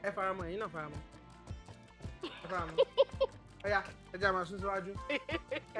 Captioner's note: laughs